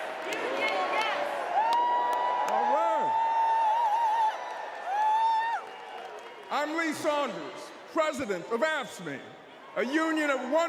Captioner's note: crowd chanting "union yes"; cheers and applause